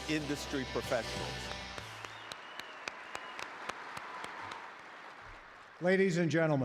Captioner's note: cheers and applause